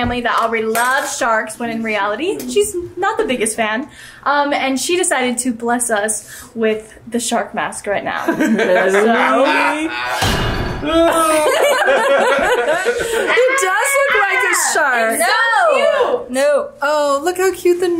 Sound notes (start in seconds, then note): 9.9 scary sound; 10.8 laughing